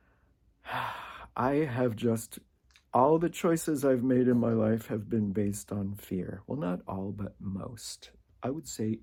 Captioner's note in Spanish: suspiro